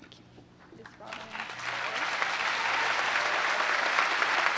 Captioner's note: applause